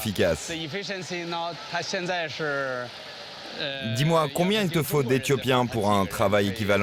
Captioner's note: speaks foreign language